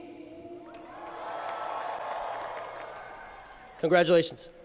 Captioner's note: cheering